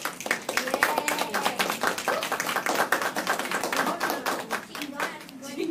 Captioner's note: applause